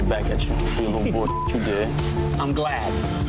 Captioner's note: beep